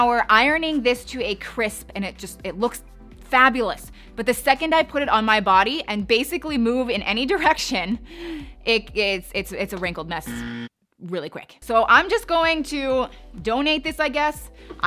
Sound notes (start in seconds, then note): 10.2 buzzer buzzing